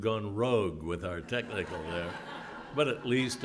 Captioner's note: laugh